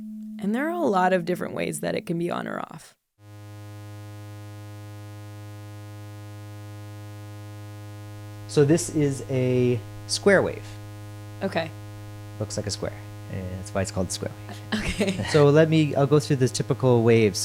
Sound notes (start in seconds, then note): 8.3 single tone playing; 14.5 laughs